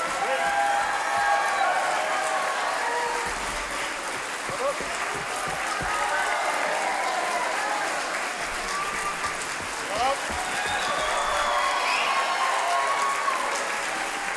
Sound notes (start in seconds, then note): 0.0 audience clapping; 0.2 audience cheering; 3.7 audience clapping; 6.1 audience cheering; 8.3 audience clapping; 10.7 audience cheering